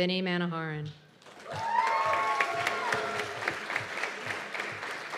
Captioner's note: cheers and applause